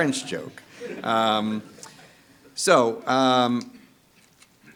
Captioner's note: audience laughing